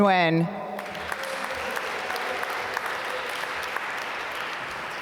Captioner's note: applause